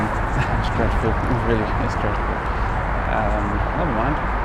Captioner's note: chuckles